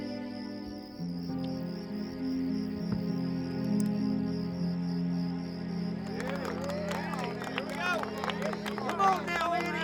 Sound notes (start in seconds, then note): 6.0 cheering, applause